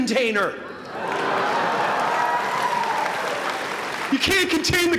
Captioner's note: applause